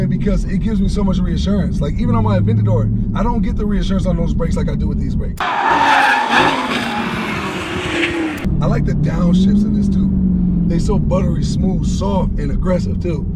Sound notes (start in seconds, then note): 5.4 tires screeching